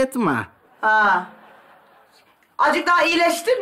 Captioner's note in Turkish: Gülme efekti